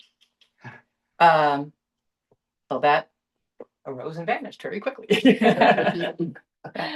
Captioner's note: laughter